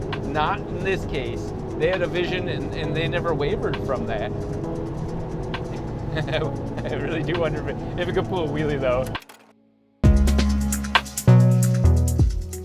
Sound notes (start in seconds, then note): 6.0 laughing; 10.0 mid-tempo music